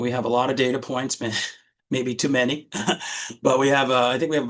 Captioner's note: chuckling